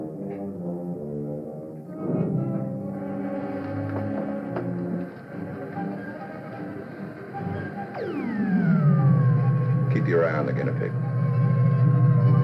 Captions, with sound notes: [machine humming] Keep your eye on the guinea pig.